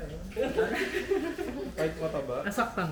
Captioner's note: laughter